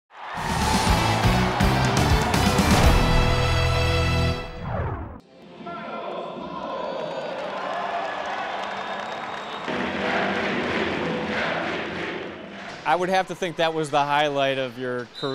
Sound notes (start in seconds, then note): 8.3 cheering